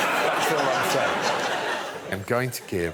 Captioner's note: chuckling